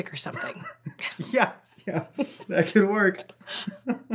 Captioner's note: chuckles